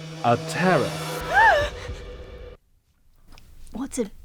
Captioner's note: gasps